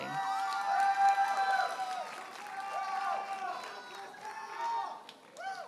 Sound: audience cheers and applauds

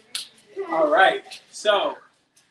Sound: slaps hands; sighs

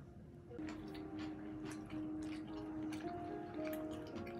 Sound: chomp chomp~

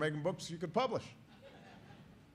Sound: laughter

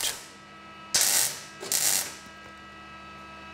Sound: crackling noises

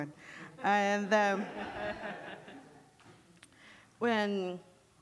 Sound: audience laughing

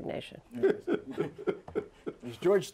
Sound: laughter

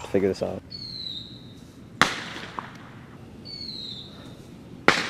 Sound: fireworks exploding

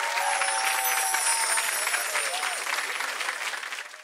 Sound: chiming

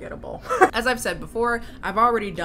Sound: laughs

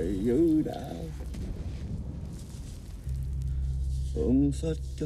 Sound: explosions in distance; Dao chanting in Vietnamese

